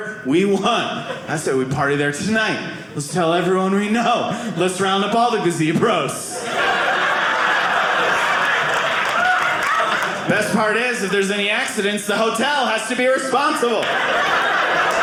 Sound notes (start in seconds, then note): 6.3 audience laughing